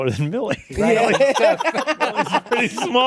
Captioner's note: laughter